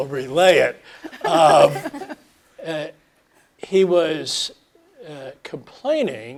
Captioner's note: laugh